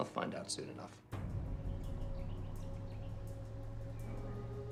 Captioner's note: birds chirping